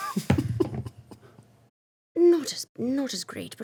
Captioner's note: laughing